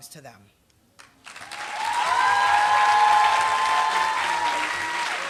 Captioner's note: applause